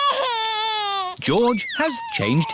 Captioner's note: crying